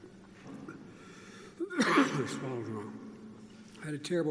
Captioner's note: coughs